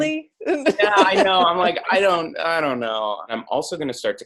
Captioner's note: laugh